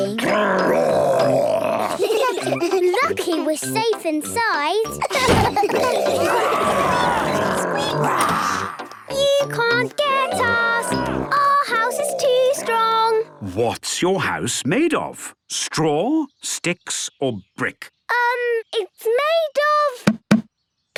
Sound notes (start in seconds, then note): 0.0 growls; 1.1 giggling; 5.1 growls, snorts